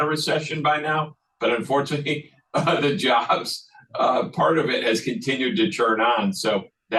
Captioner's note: laugh